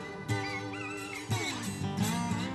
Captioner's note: rooster crowing